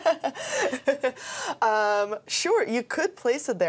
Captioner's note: both laughing